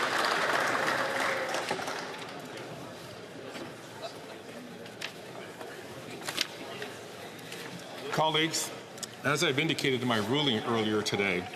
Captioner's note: some Applause